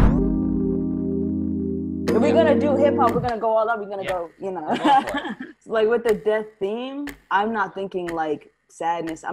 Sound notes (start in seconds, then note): 0.0 smooth music; 4.7 laughs